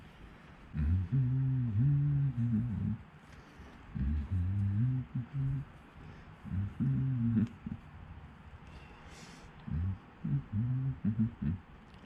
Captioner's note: humming